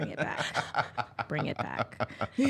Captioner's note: laughs